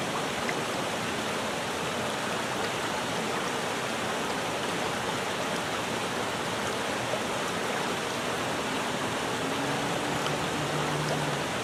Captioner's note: rushing water